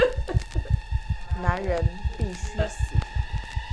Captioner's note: Sakura sobbing; Malice Voice; Mandarin language